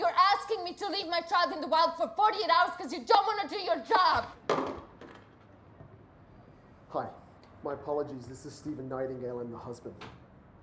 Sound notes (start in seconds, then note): 4.2 phone thudding